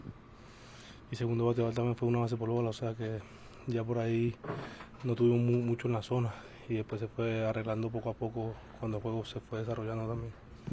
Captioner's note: Spanish